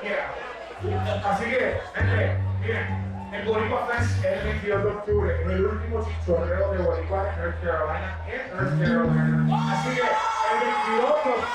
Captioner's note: crowd; disappointed